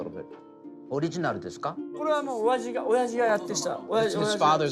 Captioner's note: speaking Japanese